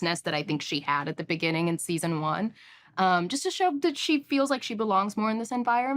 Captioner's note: none